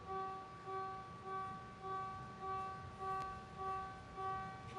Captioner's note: machine beeps